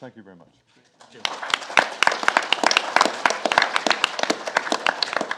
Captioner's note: audience applauds